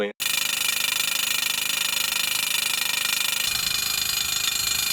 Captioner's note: rhino pounder hammering